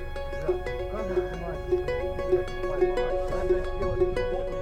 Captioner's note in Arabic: الصوت المنطوق الأوكراني